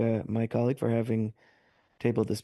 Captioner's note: speaking French